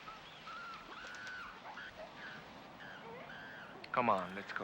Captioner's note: animals squealing